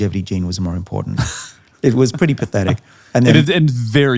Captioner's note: laughing